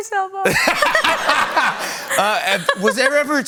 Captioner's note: laughter